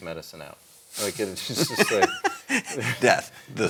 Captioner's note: laughs